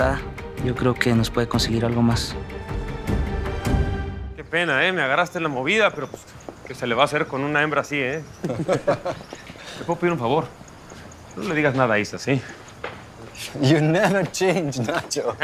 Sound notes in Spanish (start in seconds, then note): 8.4 Risas